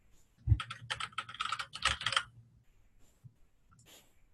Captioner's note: typing